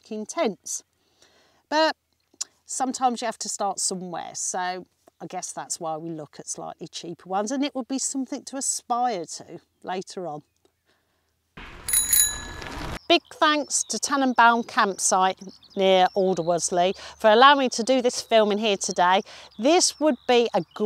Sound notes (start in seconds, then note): 11.6 bell Ring